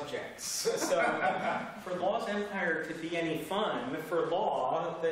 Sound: laughter

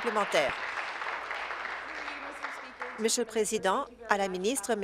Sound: applause

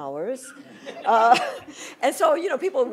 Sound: laughter

